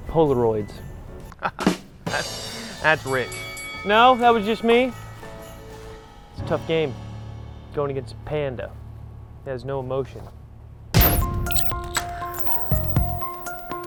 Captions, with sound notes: Polaroids. (laughs) That's great. No, that was just me? It's a tough game going against Panda that has no emotion. (suspense music)